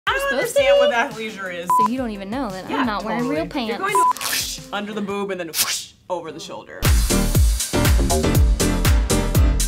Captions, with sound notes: - I don't understand. - I don't understand what that leisure is. - So you don't even know that I'm not wearing real pants. (tape ripping) - Under the boob and then we're gonna (tape ripping) over the shoulder. (upbeat music)